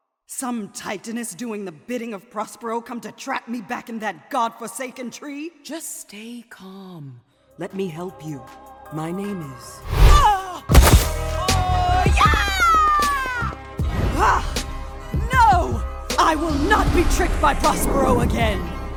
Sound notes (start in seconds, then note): 9.9 gust of wind blasts; 10.7 thuds; 11.2 Califia yells